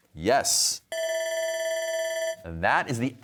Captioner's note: bell ringing